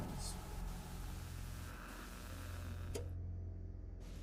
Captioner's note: static buzzing; ominous music